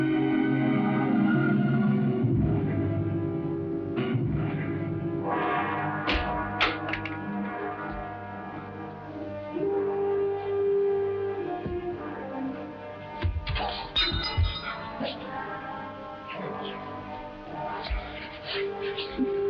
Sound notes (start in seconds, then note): 0.4 dramatic ominous music; 6.7 stool clatters; 13.2 Esteban thudding; 13.9 knife clanging